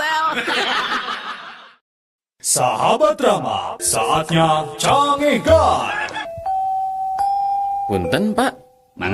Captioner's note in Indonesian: tertawa